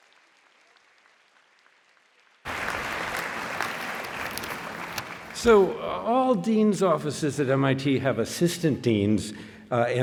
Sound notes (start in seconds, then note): 1.9 applause